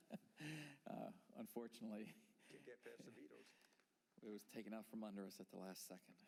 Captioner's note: laughter